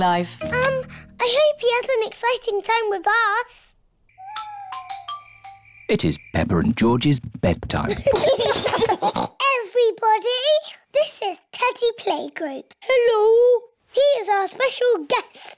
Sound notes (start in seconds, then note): 4.1 owls hoot; 7.8 both giggle